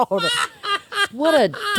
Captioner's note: laughs